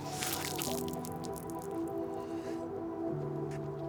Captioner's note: water splashing